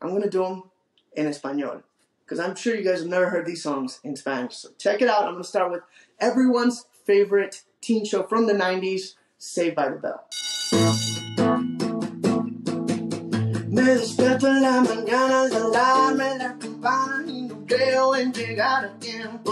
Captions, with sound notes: I'm gonna do 'em en Espanol, 'cause I'm sure you guys have never heard these songs in Spanish. So check it out. I'm gonna start out with everyone's favorite teen show from the '90s, "Saved by the Bell." (school bell rings) (bright music) (singing in foreign language)